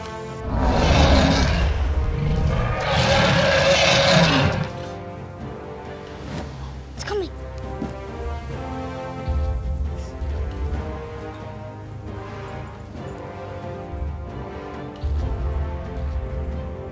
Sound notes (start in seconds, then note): 0.4 dinosaur roars; 8.9 suspense music